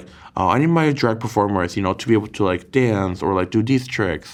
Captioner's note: none